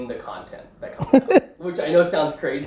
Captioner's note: laughing